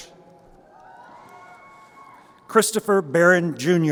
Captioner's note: crowd applauding